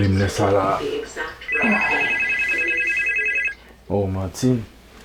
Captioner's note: phone ringing